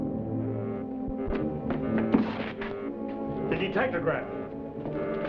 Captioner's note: detectograph buzzing